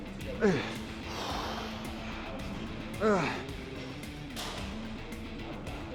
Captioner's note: upbeat rock music continues; Sheamus grunting